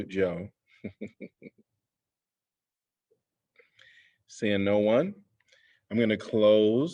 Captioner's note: laughter